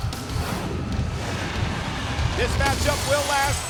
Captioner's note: title whooshing